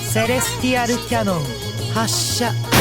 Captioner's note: none